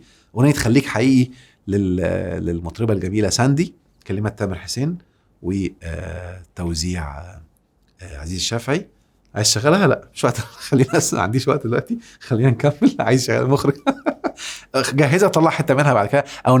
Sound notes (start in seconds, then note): 13.6 laughs!